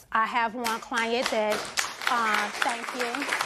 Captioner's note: applause